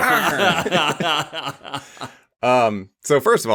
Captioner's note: laughs